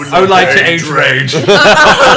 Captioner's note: all laugh